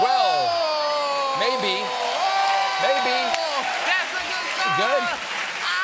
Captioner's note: audience reacts